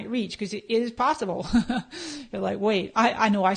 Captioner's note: laughs